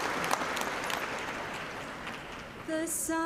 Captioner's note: cheers and applause